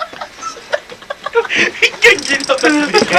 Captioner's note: laughter